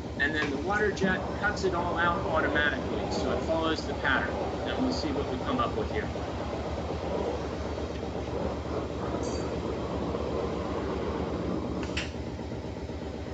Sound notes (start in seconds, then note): 7.1 machine running